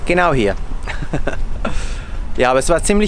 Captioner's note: laughter